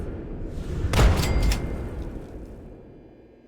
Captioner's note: boom!